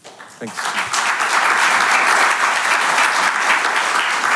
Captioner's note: audience clapping